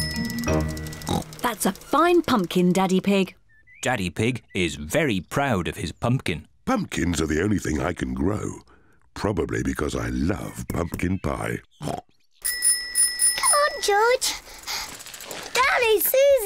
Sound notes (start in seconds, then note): 1.1 snorts; 10.8 snorts; 12.4 bicycle bell rings